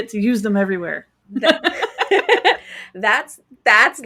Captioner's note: both laughing